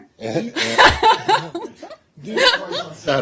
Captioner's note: laughter